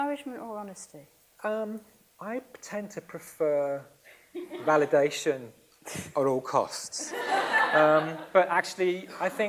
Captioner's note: laughs